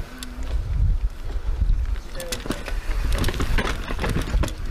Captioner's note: group chatting